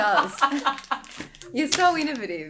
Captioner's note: laughing